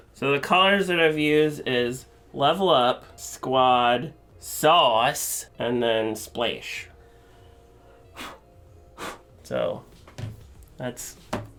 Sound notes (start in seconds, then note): 8.9 air blows